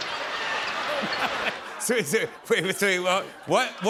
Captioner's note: laughs